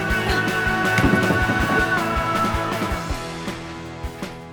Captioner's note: Shelby knocking; lively music